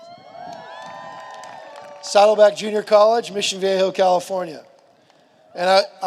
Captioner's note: cheers and applause